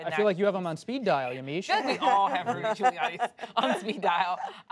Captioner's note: laughter